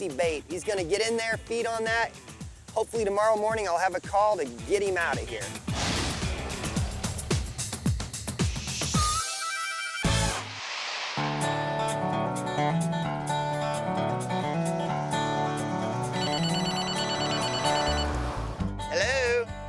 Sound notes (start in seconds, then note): 11.2 upbeat guitar strumming; 16.1 cell phone ringing